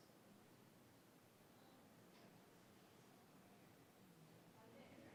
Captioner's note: whispering